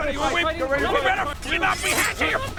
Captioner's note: sching sching